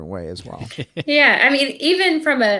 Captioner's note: laughing